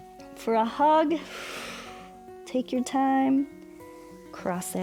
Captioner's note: exhales